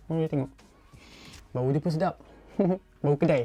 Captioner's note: sniff